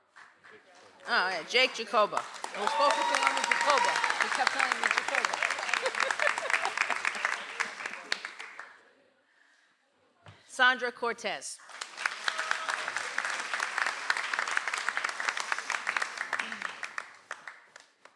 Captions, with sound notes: (audience applauds) - Sandra Cortez. (audience applauds)